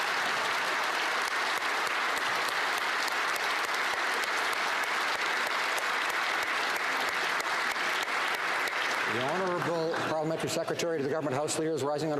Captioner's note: applause